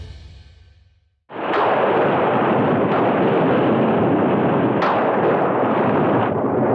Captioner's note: thunder crashing; waves crashing